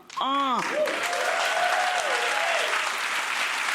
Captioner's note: applause